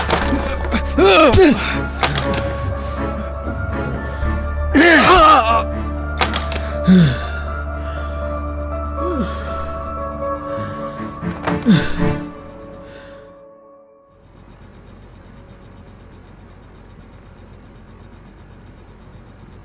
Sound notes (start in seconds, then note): 4.7 grunts in pain; 8.9 sighs; 14.2 faint ceiling fan working